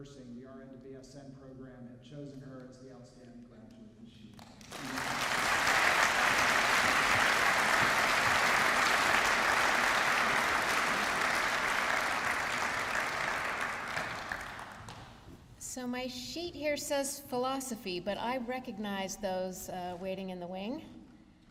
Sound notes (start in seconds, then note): 5.1 applause